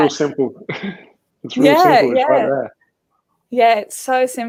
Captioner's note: laughing